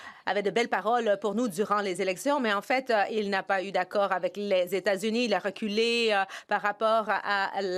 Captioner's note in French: voix de l'interprète